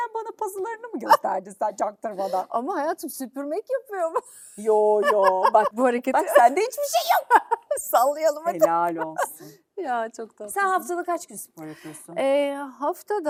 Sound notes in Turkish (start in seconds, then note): 6.1 kahkaha